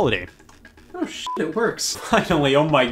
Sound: beep

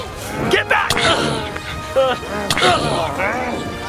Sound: groans

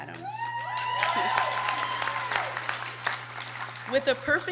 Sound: applause

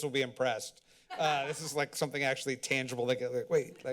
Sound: laughter

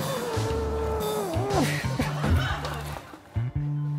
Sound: straining

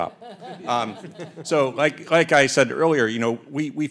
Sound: audience laughs

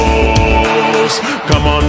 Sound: clapping

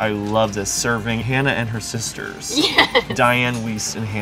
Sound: laugh

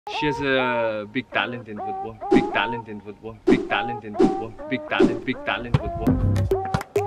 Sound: echoing

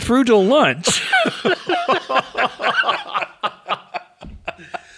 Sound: both laughing

